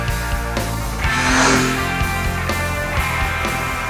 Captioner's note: motorcycle revving over music